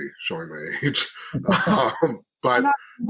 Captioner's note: laughing